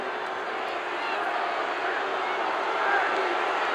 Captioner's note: crowd boos